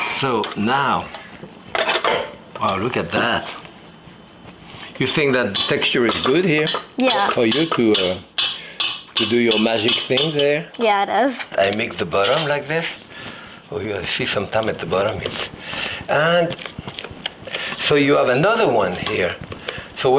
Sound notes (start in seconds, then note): 6.0 whisk clinking